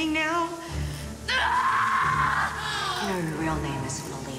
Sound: Malia screaming

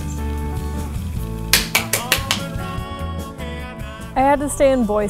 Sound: clapping

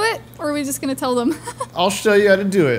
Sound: laughs

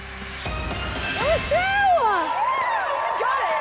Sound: audience cheers

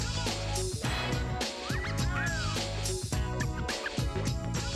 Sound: wolf whistle

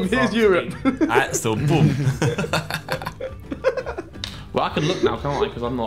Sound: everyone laughing

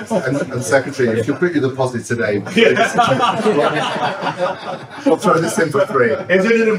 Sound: laughter

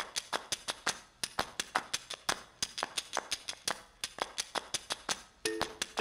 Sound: clap, clap, clap, clap recorded and playing on a loop; twang, twong of kalimba

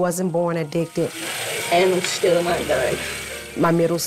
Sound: faucet running

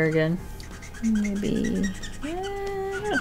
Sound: marker squeaking

